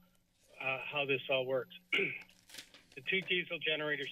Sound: clears throat

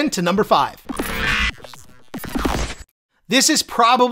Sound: electricity squawking

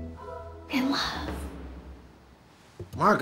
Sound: whispers

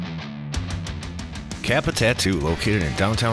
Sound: voiceover

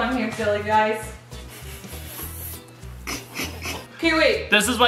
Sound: chuckles

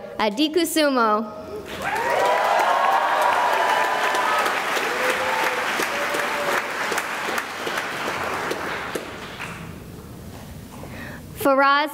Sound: cheering and applause

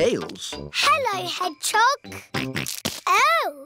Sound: snorts

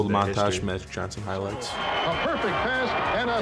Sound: crowd cheering

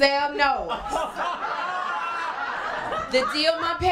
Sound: laughter and cheering

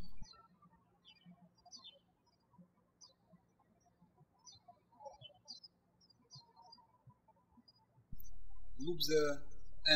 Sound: birds chirping

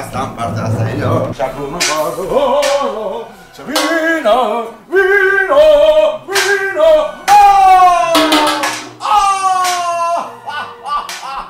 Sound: hums off-key

